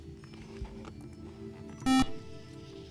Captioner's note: beep